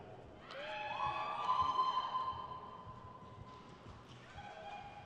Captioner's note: crowd cheers